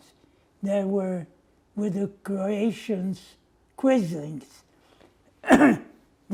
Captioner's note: coughing